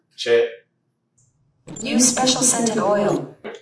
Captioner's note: dual voices